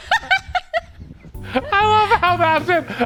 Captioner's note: camera person laughing; laughing